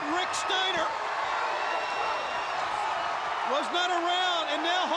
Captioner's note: audience cheering